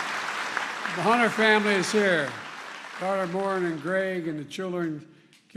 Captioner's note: applause